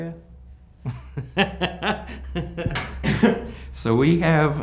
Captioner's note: laughs